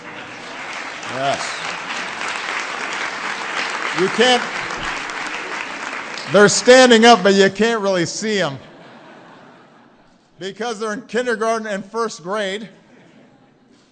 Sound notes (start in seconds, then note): 0.1 applause; 8.5 laughter